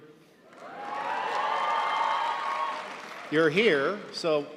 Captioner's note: audience applauding